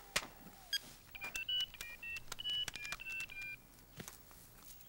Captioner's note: phone buttons beep